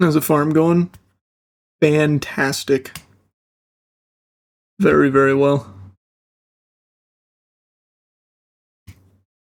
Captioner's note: silence